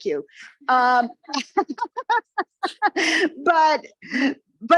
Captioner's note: presenter laughing